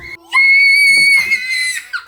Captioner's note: screams